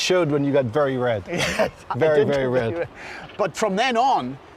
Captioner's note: laughing